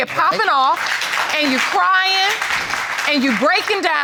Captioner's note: applause